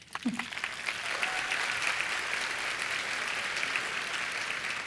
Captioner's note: chuckles; cheers and applause